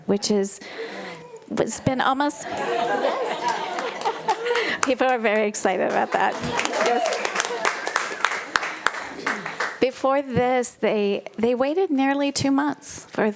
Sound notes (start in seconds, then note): 2.2 crowd talking; 6.4 audience applauding